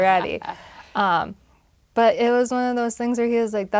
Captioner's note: laugh